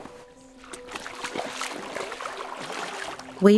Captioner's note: splashing sounds